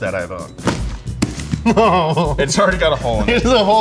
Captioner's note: laughter